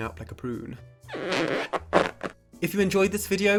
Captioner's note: balloon squeaking